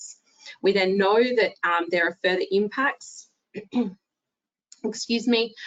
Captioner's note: clears throat